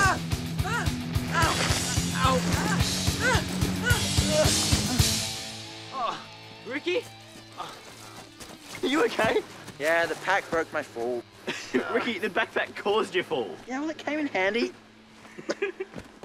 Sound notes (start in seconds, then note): 3.1 screams; 5.9 Rikki groans